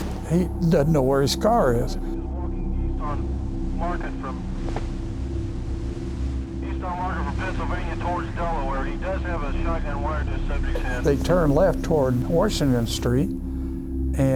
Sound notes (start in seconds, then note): 2.3 officer On Radio